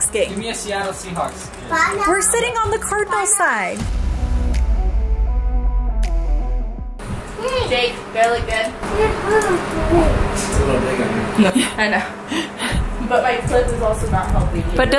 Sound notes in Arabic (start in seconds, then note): 3.9 موسيقى معتدلة; 11.7 ضحكات خافتة من الكريستال